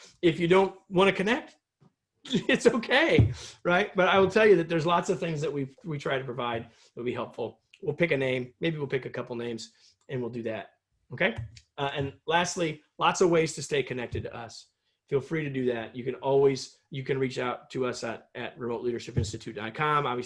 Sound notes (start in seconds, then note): 2.2 laughter